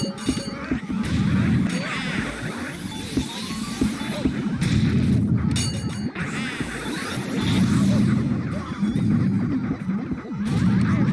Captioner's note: Sounds of Luigi getting jumped in the streets and being left for dead